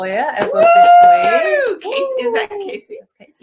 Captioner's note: clapping